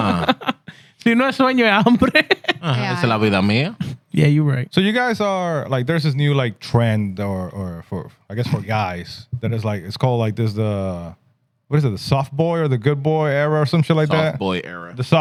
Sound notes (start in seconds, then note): 1.0 speaking Spanish